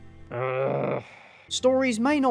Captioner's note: groan